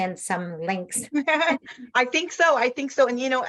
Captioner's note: laughs